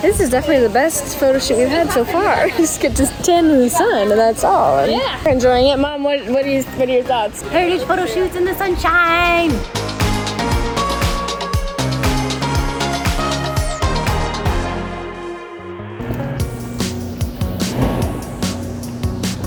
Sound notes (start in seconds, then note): 16.1 street sounds